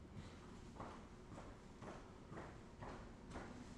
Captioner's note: heavy footsteps